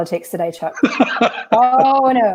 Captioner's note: laughing